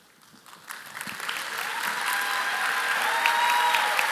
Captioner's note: applause